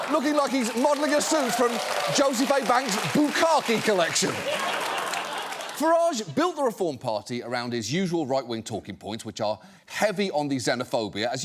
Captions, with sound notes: ...looking like he's modeling a suit from Joseph A. Bank's bukkake collection. (AUDIENCE LAUGHS) Farage built the Reform Party around his usual right-wing talking points, which are heavy on the xenophobia,